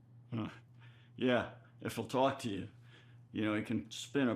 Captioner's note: chuckles